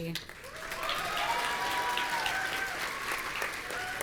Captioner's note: audience cheering